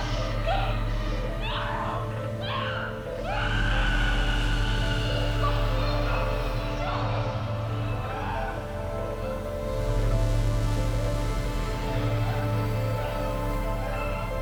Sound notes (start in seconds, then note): 0.1 Miriam shouting continues; 6.8 Miriam shouting continues; 11.8 tense music